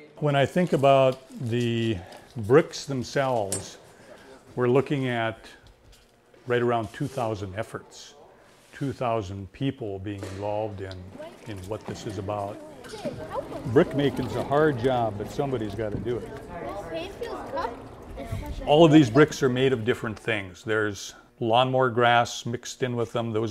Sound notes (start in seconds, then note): 16.5 children talking